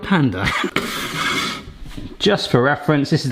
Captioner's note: scale scraping om counter top